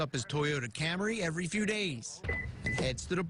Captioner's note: beeping